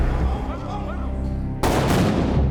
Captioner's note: smugglers shouting in Spanish; gunshots blasting; tense music